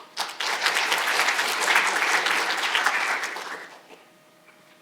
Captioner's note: audience applauding